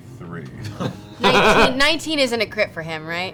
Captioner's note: laughs